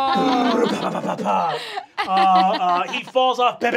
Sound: laughing

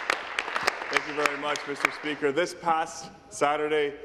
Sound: applause; cheering

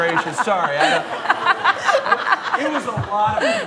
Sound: laughter

